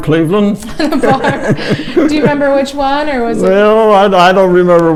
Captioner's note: laughing